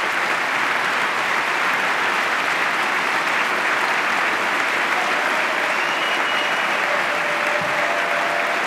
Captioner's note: applause